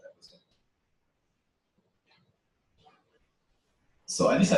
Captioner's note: pause